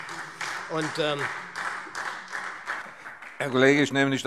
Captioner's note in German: Beifall SPD